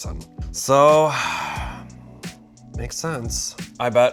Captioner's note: exhaling loudly